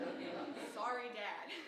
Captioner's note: audience chuckling